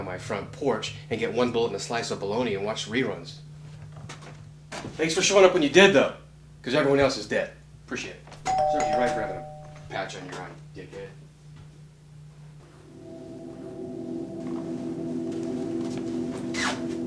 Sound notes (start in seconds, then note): 8.4 door bell dings; 13.0 suspenseful music